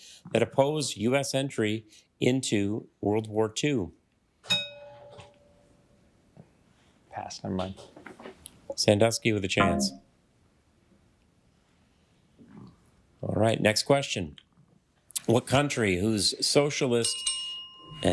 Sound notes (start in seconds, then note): 4.5 bell dings; 9.6 failure chime; 17.0 bell dings